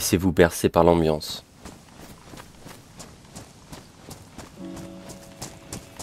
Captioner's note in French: Bruits de pas